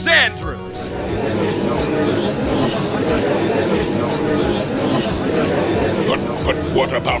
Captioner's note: gallery chattering